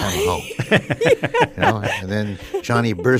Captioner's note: laughs